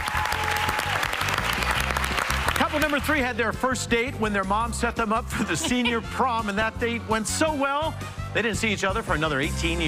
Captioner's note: cheers and applause